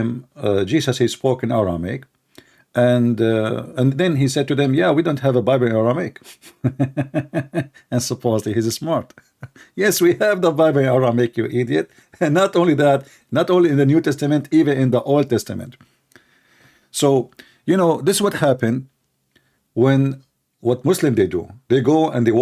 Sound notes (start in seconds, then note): 6.2 Ketawa